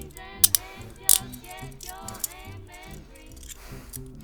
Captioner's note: handcuffs clicking